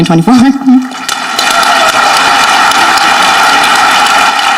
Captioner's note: audience clapping